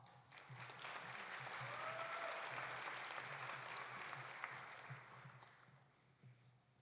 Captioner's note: audience applauding; audience cheering